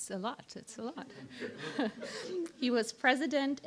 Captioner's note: laughter